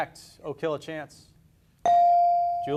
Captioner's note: beep